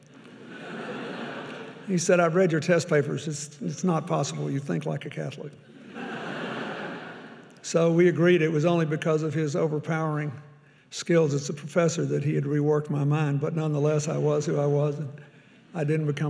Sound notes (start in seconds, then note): 0.1 audience laughing; 5.7 audience laughing